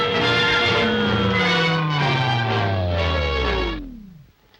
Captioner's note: machine whirs